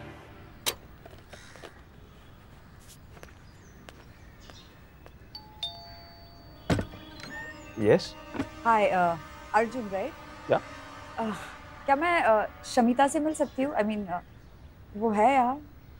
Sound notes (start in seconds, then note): 1.2 Crows cawing; 3.7 Footsteps; 5.3 Doorbell ringing; 6.6 Door opens